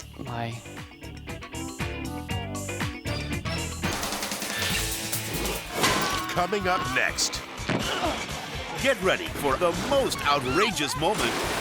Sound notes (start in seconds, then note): 1.5 upbeat music; 7.7 weightlifter grunting